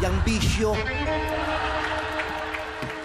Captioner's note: crowd laughing